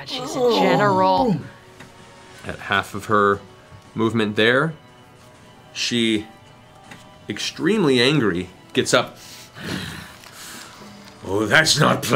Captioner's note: growls